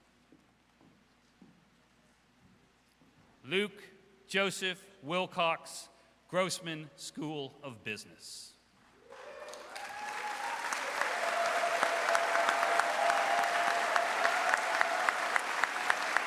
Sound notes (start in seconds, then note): 9.1 audience applauds; 9.1 audience cheers